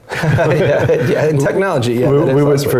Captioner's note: laugh